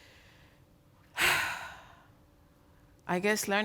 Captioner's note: sighs